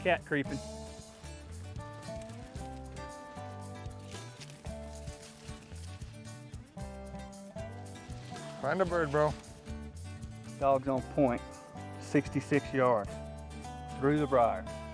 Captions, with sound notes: (leaves rustle) Find a bird bro. - Dog's on point, 66 yards through the briar.